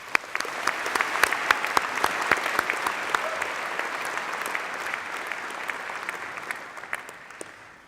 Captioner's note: applause